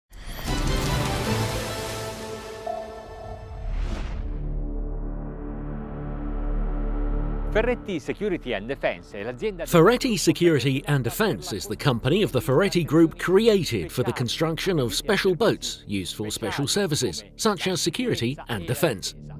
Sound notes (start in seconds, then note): 0.2 lively music; 3.9 dramatic music; 7.6 speaking in foreign language